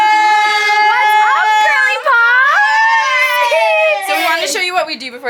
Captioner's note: girls shouting all at once